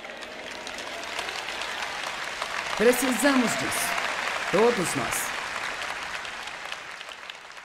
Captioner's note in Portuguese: audiência aplaude